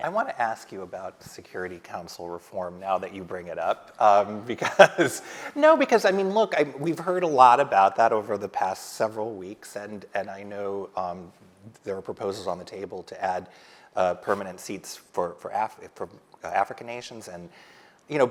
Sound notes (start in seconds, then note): 4.6 laughs